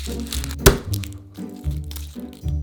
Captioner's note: garlic paper rustling; knife smashing